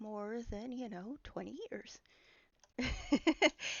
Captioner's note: laughing